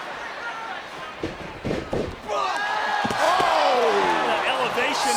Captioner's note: crowd chattering